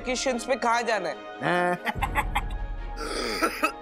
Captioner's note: laughs; coughs